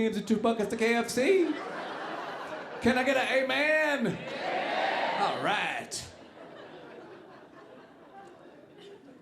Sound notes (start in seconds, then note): 6.1 audience laughing